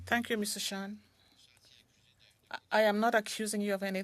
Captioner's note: speaking French